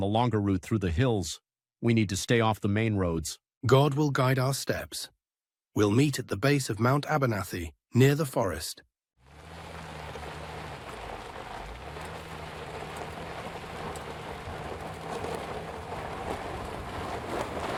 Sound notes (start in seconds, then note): 9.7 engine roaring